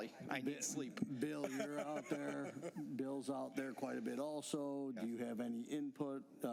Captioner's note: laughter